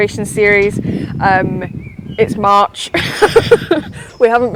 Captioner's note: laughs